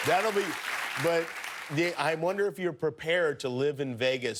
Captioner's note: cheers and applause